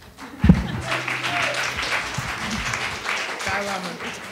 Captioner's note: attendees applauding